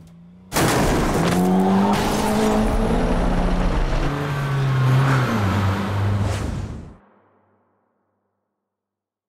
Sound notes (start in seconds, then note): 0.5 crashing